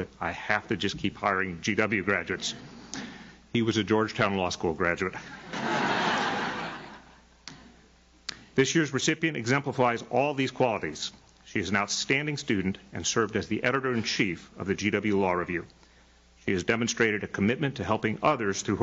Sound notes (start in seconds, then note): 5.2 audience laughs